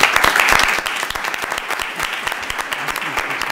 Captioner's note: applause